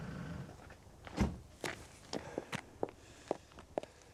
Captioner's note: door slams